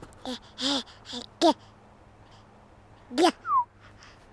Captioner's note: baby coos